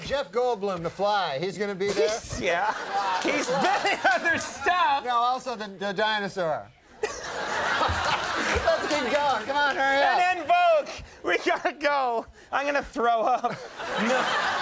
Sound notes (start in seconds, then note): 6.9 audience laughing